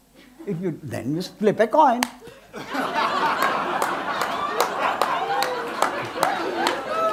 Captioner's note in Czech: smích